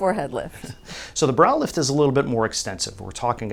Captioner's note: laughs